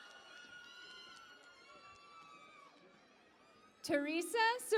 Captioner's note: cheering and Applause